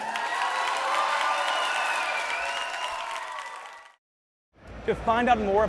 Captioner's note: cheers and applause